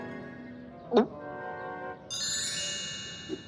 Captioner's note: gulps